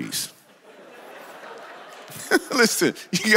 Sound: congregation laughs; laughs

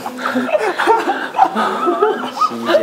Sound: laughing

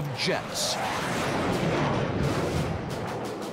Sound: jet roaring

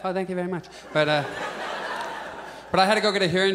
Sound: audience laughs

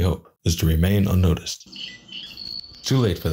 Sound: bird chirping

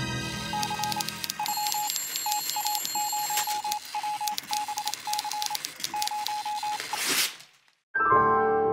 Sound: suspenseful music; telegraph beeping, typing; piano gliss

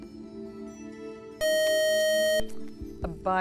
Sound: beeping

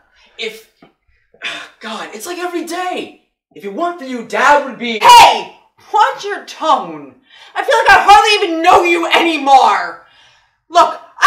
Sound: sigh

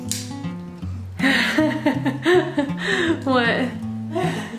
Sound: laughing

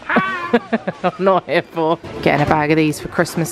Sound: laughs

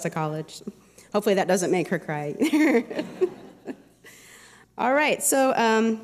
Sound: laughter

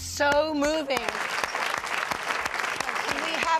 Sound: applause

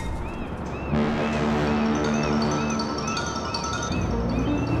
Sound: ship horn blows; mild music

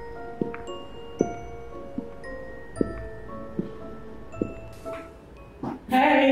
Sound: mysterious music continues; footsteps

